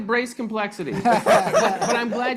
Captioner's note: panelists laughing